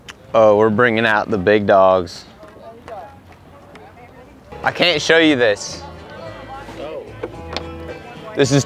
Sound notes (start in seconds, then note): 2.7 people chattering faintly